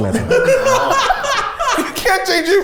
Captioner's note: everyone laughs